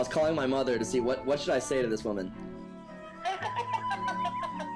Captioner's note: woman laughing